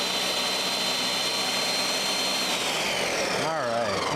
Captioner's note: blender whirls